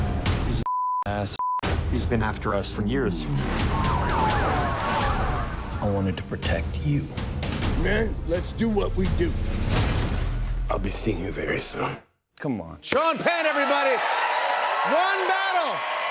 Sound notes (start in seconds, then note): 3.4 sirens wailing